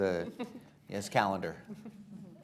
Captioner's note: laughter